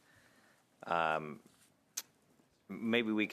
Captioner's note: silence